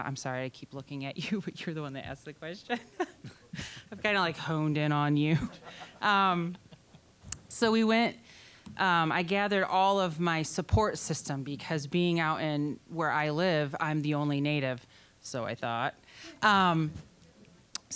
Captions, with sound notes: I'm sorry, I keep looking at you, but you're the one that asked the question. (laughing) I've kind of honed in on you. (scattered laughing) So we went-- I gathered all of my support system because being out where I live, I'm the only Native... so I thought...